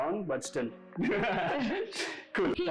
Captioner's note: shares laughter